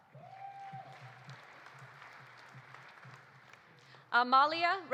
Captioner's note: audience cheering; audience applauding